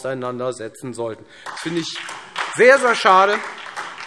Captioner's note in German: Beifall Freie Demokraten, vereinzelt SPD und DIE LINKE